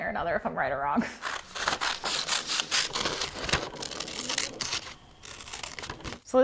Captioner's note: scissors crunch on paper